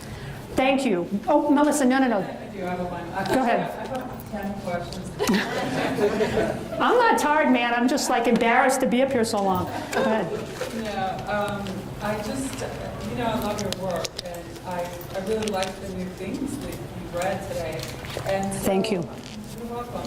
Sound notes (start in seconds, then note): 5.2 audience laughs